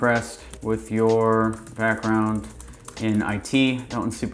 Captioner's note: keyboard typing